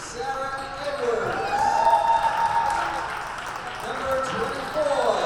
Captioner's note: crowd cheers